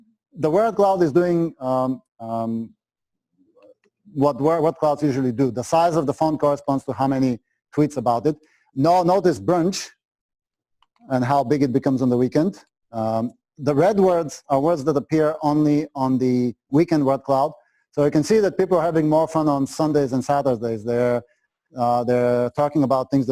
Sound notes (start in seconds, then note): 2.1 pause